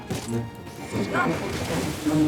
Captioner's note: gunshots